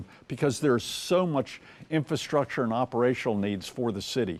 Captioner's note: none